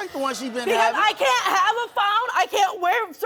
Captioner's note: audience groans